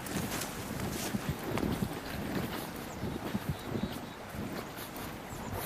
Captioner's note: heavy foot steps